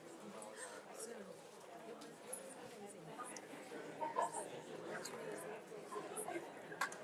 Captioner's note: board members and attendees speaking faintly